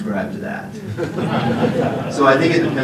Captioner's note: laughter